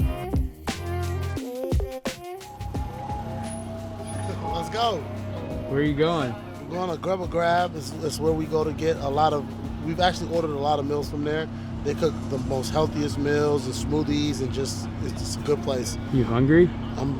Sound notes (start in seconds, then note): 2.5 car engine groans